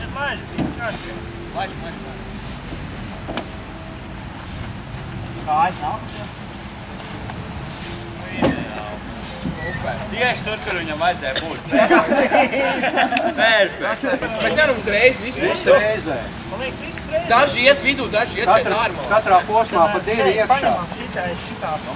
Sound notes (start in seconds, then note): 11.4 laughter